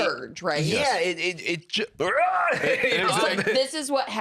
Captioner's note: roars, laughs